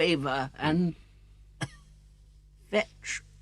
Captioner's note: coughs weakly